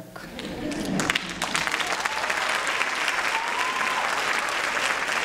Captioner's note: applause and cheering